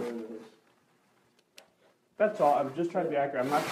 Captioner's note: awkward pause